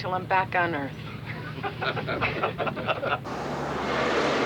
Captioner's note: laughing